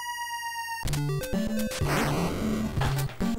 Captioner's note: fwoosh